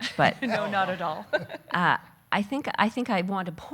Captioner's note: laughing